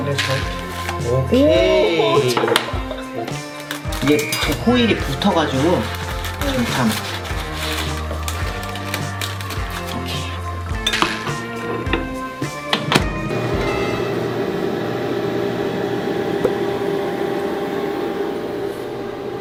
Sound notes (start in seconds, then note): 13.0 microwave on